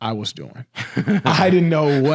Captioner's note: laughs